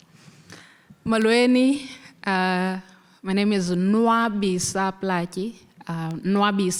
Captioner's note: speaking foreign language